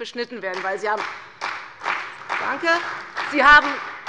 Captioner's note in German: Beifall bei der CDU